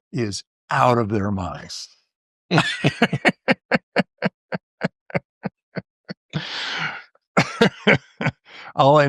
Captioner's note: laughter